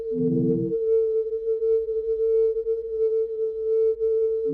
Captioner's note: humming